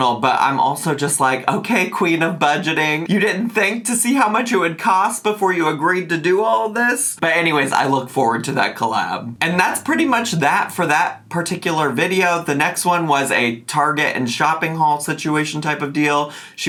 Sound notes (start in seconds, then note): none